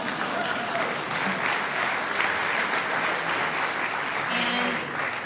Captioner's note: applause